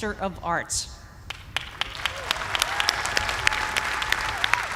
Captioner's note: cheers and applause